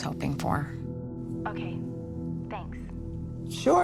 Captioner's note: on phone